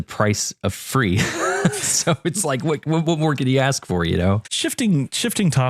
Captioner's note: laugh